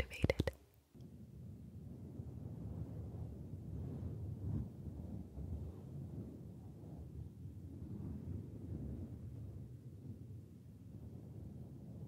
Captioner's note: mic brushing